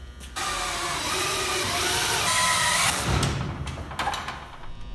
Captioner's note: drilling